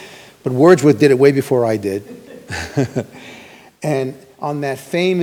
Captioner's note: chuckles